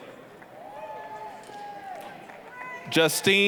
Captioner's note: applause, cheering